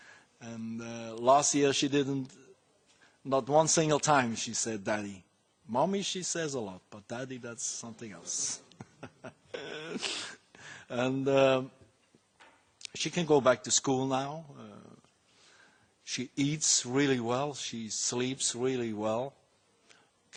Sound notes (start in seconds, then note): 8.6 laughing